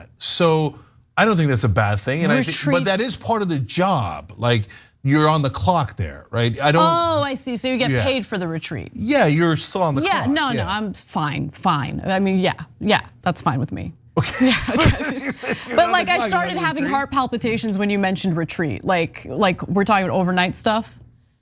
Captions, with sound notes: So I don't think that's a bad thing and that is part of the job. You're on the clock there, right? >> I see. So you get paid for the retreat. >> Yeah. You're still on the card. >> Yeah. No, I'm fine. I mean yeah. Yeah, that's fine with me. [LAUGH] But like I started having heart palpitations when you mentioned retreat. We're talking about overnight stuff.